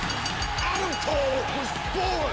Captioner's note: bell ringing